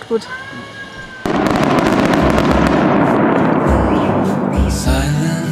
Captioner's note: loud banging